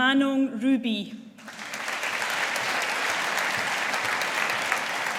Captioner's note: audience applauding